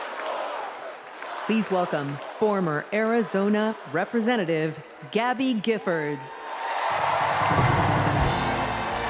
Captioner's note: crowd chanting